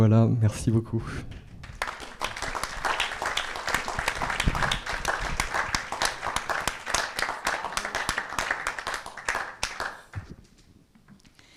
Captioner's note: applause